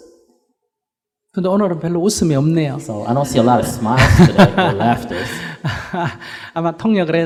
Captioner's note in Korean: 스님 웃음